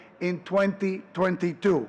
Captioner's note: none